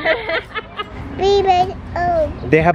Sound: people laugh

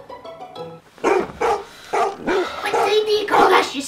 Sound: dog barking

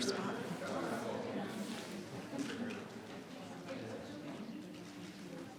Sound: people continue chattering

